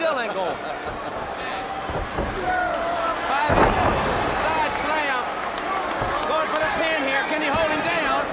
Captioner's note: laugh